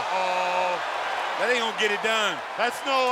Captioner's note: crowd yelling